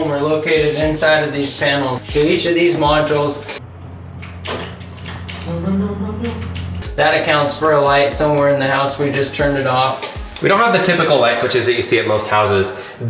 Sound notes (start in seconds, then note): 6.2 lights clicking